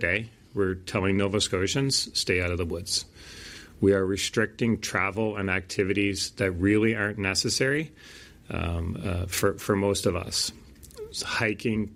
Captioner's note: Nova Scotia premier speaking